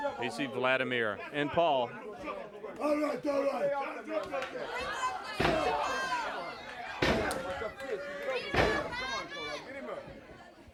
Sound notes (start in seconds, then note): 5.7 audience hollers